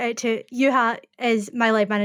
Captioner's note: speaking foreign language